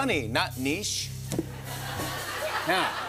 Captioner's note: laughter